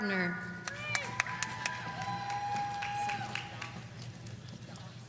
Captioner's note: audience cheering